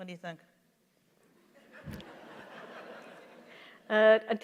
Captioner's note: laughter